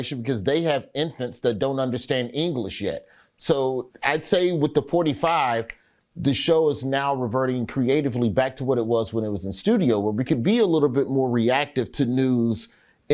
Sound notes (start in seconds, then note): 5.3 Roy snaps